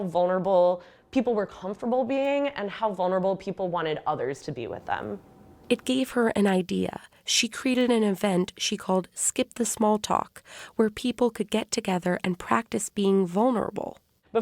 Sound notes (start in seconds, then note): 6.4 voice-over